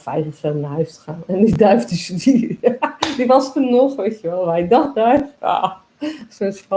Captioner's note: laughs